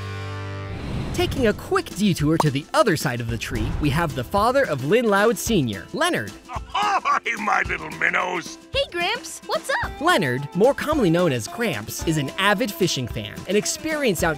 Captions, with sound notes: Taking a quick detour to the other side of the tree, we have the father of Lynn Loud, Sr, Leonard. [laughing] Hey, my little minnows. Hey, Gramps! What's up? Leonard, more commonly known as Gramps, is an avid fishing fan, an experienced outdoorsman,